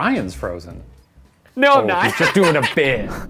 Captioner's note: laughs loudly